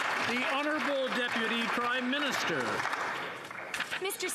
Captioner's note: some Applause